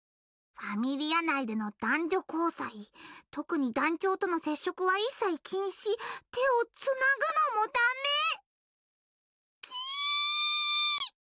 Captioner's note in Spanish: grita por celos